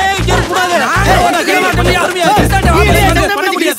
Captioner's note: general uproar